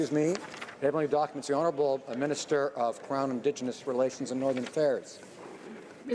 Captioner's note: speaking French